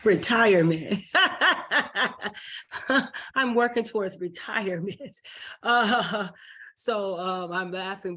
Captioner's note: laughs